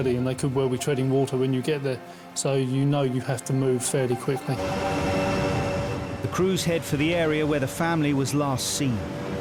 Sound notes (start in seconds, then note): 4.5 boat buzzing; 4.8 intense music